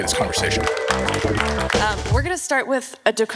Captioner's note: audience applauds